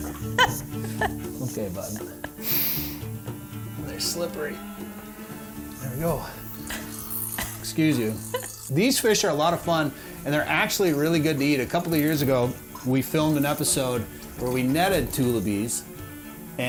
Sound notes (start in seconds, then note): 0.0 both laughing